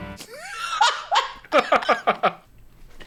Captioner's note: laughing